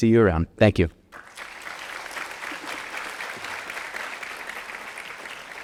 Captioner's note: audience applauding